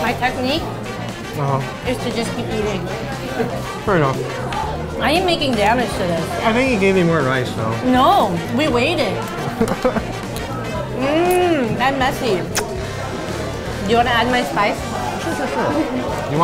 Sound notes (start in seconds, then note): 9.2 laughs; 12.6 licks fingers